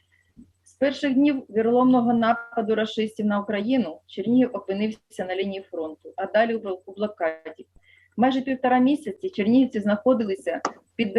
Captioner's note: foreign Language